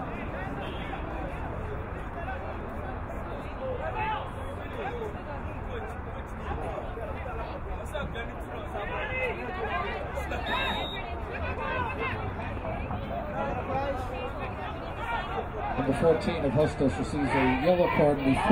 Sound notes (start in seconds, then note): 10.4 whistle blowing